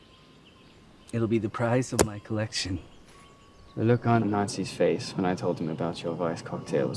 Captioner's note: chuckles